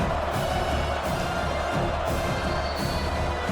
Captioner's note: crowd Noises